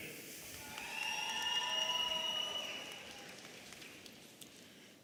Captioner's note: audience cheering